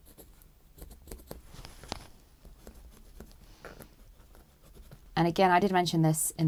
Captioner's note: pencil scratching